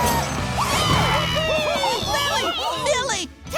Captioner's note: cheering